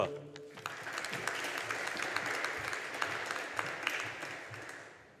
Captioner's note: audience applauding